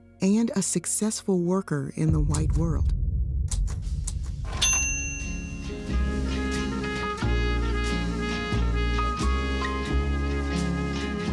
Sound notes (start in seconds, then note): 3.3 typewriter clicking; 4.6 bell dings; 4.7 soft music